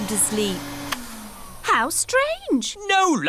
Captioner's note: whirring stops